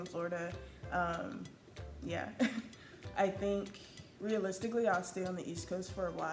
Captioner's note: laughs